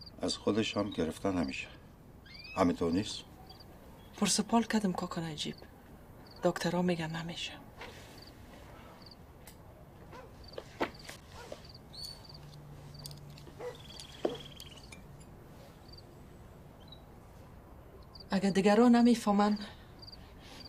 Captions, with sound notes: And it's not possible to get it from Baghi, is that right? I asked them and asked them, but I was told it's not possible. [dog barking] Even though people won't understand,